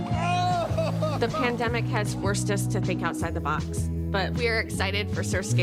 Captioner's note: laughter